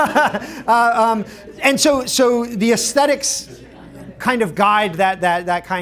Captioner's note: laughter